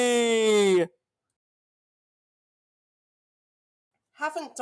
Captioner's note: silence